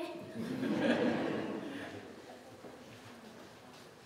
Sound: audience laughing

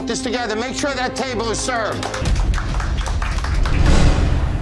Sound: clapping

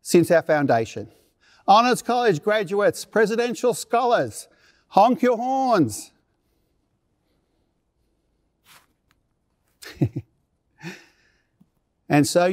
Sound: laughter

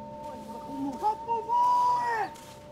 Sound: man yells

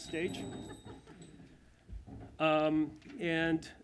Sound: laughter

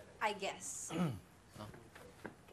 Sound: Prince clears throat

